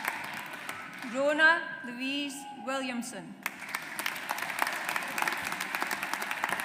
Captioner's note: audience applauds